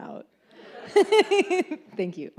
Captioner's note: audience laughs